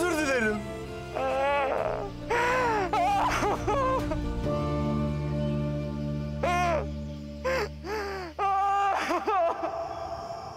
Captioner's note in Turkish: Ağlıyor